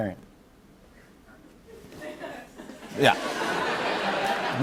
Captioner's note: laughter